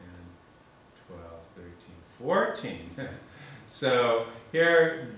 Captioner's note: chuckle